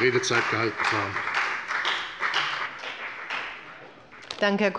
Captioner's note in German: Beifall bei der FDP